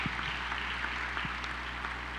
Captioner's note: applause